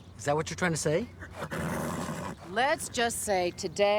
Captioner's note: neighing